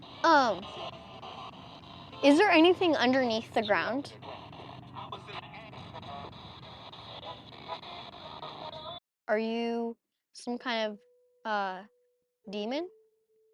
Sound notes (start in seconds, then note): 7.2 Spirit Box pulses